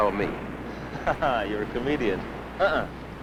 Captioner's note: chuckling